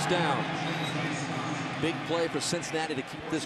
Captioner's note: whistle blows